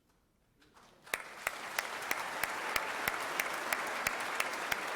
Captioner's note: crowd applauding